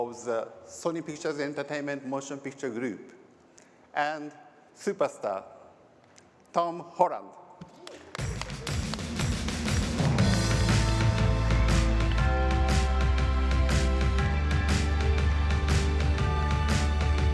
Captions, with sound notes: the Sony pictures entertainment motion picture group and superstar, Tom Holland. [APPLAUSE]